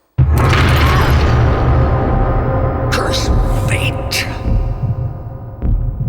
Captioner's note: grunts in pain